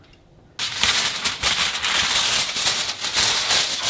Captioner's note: foil rustling